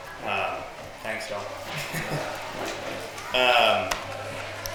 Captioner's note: chuckles